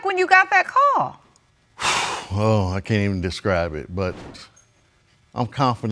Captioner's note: sighs